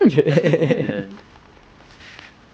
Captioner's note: laughing